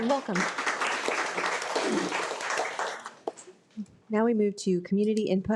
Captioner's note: audience applauding